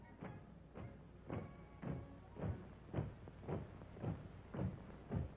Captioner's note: marching sounds